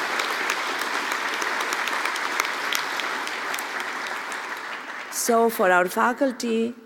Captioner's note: applause